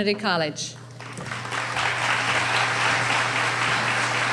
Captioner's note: applauding